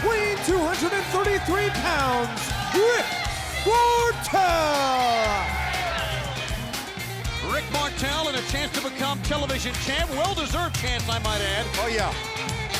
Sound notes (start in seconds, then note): 5.4 fans cheering; 5.4 upbeat music